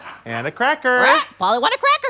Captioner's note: squawks